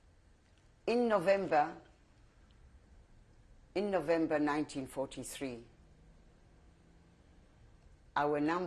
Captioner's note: pauses for 3 seconds